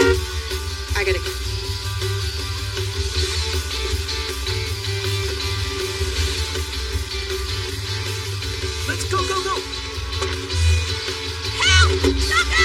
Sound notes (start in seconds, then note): 2.8 car e engine starts